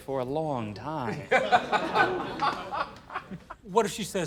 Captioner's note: laughter